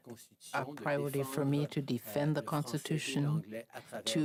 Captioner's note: speaking French